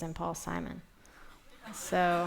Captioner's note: laughter